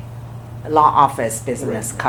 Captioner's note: laughs